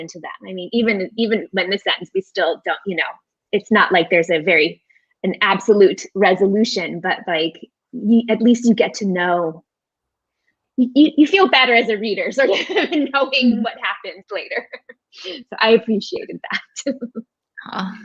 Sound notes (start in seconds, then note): 14.5 laughing